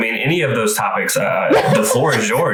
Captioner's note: laughs